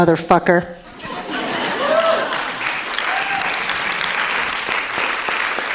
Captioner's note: audience clapping